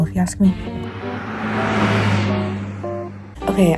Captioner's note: car driving sound effect